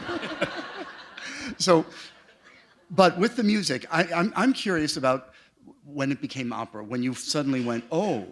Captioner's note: laughter